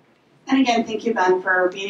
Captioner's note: voiceover